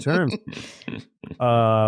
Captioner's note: laughs